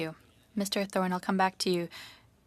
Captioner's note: speaking French